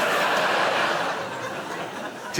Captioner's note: audience laughing